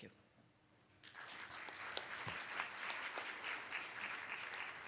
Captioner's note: applauding